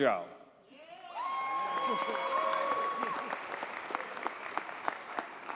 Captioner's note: audience cheers and applauds